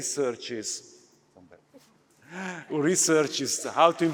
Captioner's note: applause